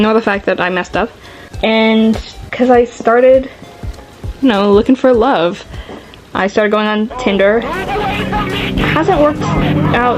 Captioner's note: screaming tiktok